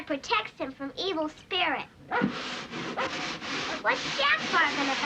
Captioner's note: barking